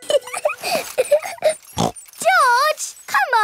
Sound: laughs and snorts

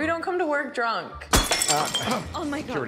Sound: glass clanking

